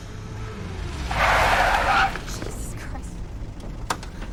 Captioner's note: tires screech